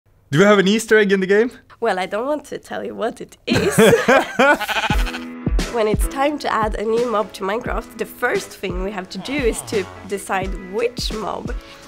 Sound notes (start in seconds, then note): 3.5 laughter; 4.4 sheep bleats